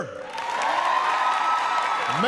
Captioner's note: applause